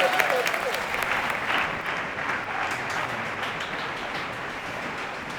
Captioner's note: backstage ambient sound